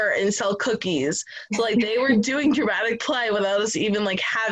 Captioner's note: laughter